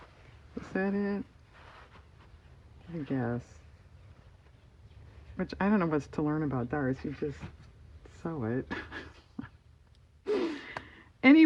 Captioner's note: laughs